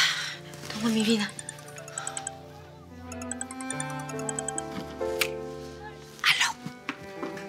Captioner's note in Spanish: Suena el celular